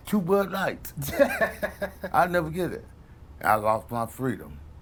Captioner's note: laughs